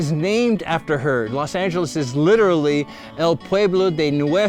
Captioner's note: speaking in foreign language